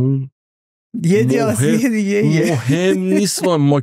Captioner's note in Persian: خنده